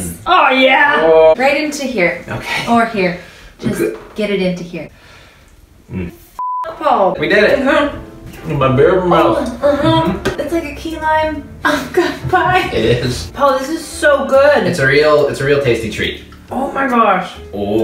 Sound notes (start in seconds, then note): 12.0 laughs